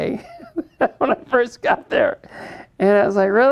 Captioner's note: laughs